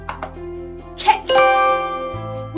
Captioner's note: chime